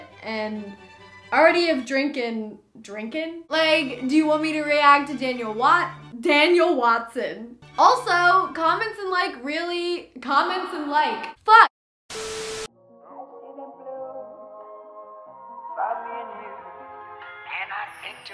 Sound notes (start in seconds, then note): 12.2 TV static; 12.4 beep